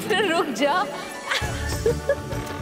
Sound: giggles

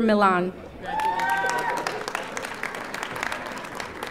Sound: audience applauding

